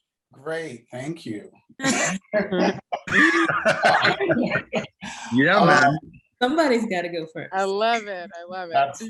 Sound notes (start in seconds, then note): 1.8 laughter